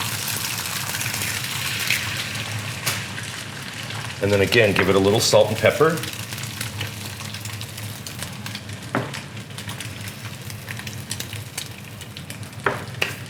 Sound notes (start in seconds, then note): 0.3 sizzling; 6.9 crackling